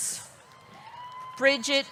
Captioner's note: audience cheering; audience clapping